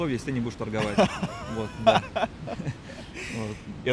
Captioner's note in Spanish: ambos se ríen